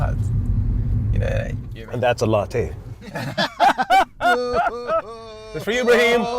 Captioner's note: laughter